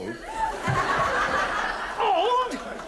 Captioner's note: audience laughs